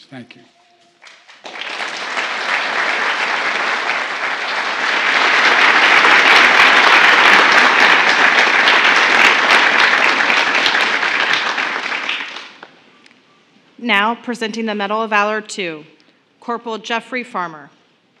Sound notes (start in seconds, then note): 1.0 applause